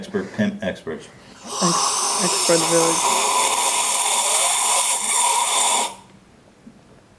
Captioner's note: sips loudly